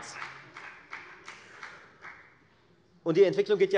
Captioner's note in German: Beifall bei der FDP